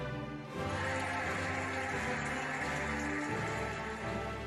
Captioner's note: cheering and applauding